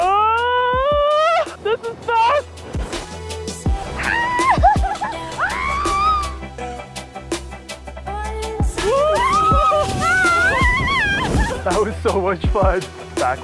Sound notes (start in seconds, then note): 5.3 companion screams; 8.8 both screaming